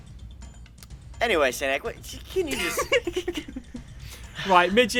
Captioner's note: laughter; sighs